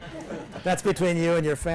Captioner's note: class laughs